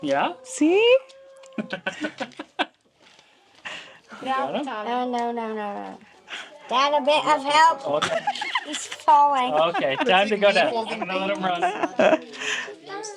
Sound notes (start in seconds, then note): 1.4 laughing